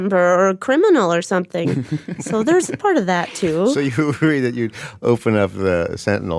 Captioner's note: laughs